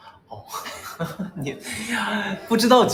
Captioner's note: laughs